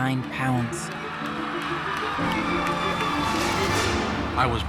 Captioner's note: audience applauding